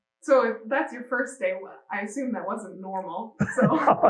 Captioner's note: laughing